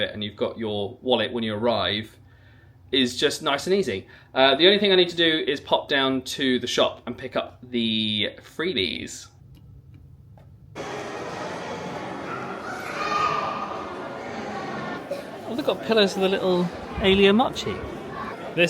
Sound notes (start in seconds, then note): 12.2 child shouting